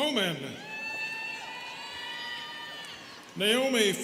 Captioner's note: students cheering